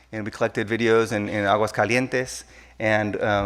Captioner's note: speaking in a foreign language